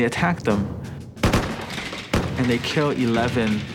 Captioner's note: rifles Fire